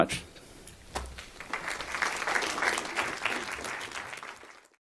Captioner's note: applause